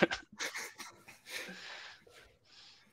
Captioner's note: laughter